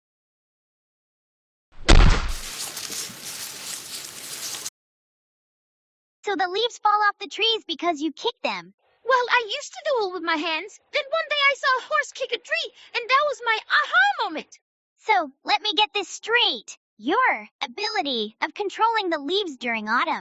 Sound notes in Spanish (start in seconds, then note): 1.8 ¡pum!; 1.9 las hojas crujen